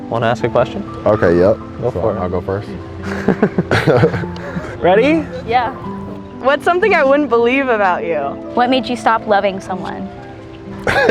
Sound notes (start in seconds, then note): 3.0 both chuckle; 10.8 laughing